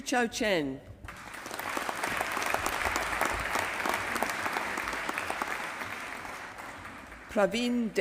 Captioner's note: applause